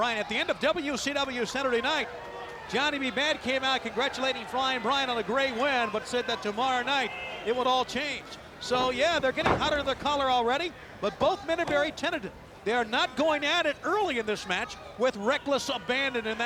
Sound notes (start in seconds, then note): 12.7 hands thudding